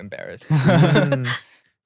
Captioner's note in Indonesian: tertawa